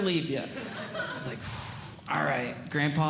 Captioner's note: sighs